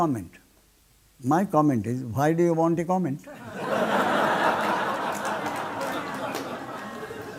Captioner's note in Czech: smích